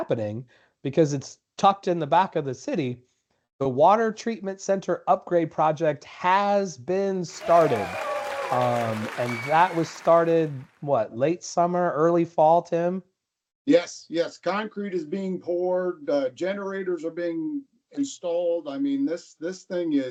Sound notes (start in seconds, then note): 7.3 cheering Crowd